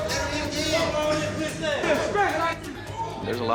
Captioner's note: inmates shouts